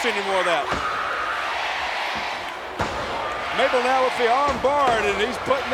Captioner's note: applause